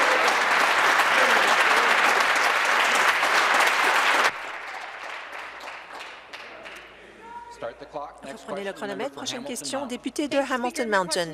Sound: applause

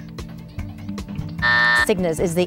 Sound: buzz

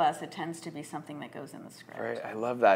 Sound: none

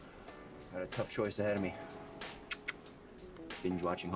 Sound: tongue clucks

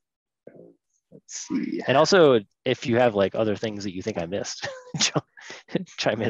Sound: laughs

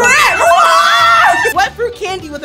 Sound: all cheering

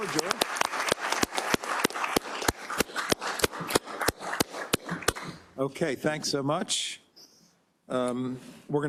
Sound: applause

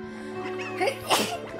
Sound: sneeze

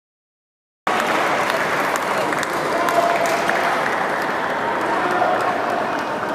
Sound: applause

